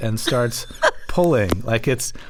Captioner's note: laughter